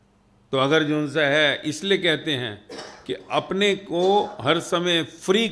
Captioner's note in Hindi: गला साफ़ करने की आवाज़